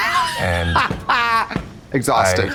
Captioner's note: blonde Women cachinnate